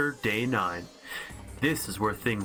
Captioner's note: inhale